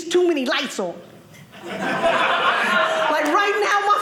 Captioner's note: audience laughing